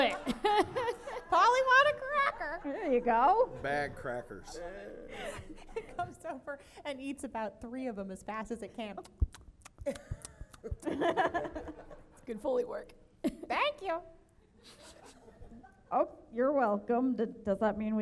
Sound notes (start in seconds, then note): 10.5 gobbles